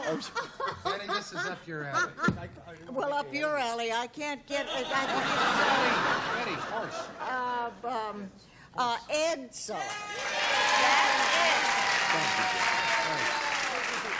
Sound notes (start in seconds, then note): 7.3 laughter; 11.7 cheering